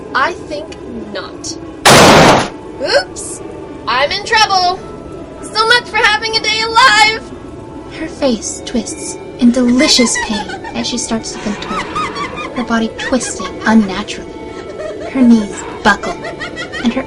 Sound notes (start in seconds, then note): 1.8 metallic bang; 11.4 Folami starts laughing— slowly build into chaotic laughter and possibly pained